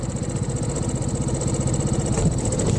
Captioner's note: motorbike engine